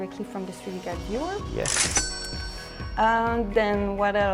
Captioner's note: cash register cha-ching